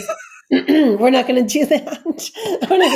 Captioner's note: laughs